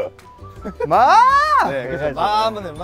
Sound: screaming

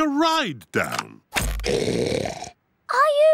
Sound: oinks loudly

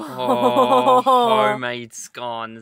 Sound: laughing

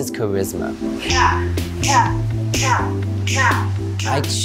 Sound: clicking tongue in time

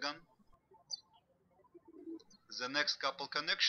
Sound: birds chirping

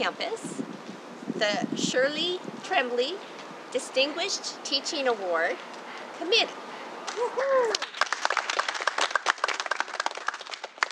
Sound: clapping

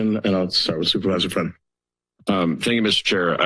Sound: none

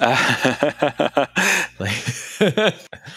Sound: laughter

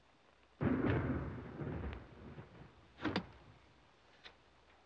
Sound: thunder blasting

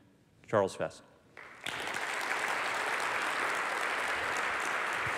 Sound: applause

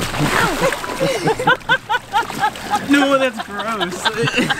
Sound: laughing

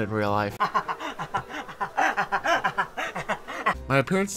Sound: man laughs

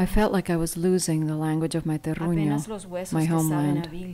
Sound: speaking Spanish

